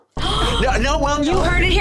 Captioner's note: gasping